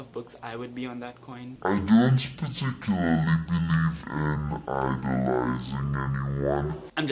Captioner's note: slow, low pitched